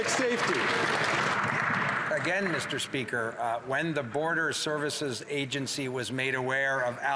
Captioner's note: some Applause